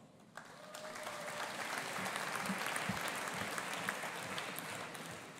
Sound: audience applauding

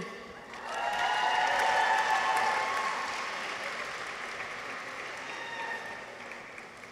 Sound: audience applauds; people cheer

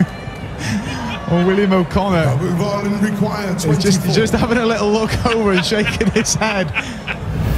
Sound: giggles

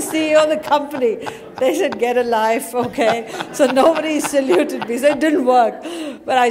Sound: laughter

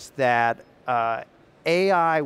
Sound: none

